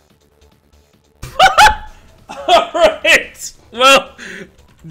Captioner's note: surprised laugh